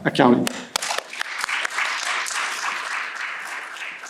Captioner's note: audience applauds